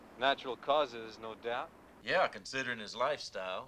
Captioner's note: none